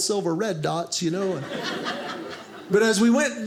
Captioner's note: audience laughing